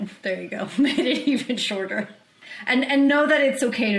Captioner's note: chuckles